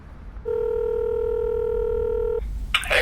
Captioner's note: phone ringing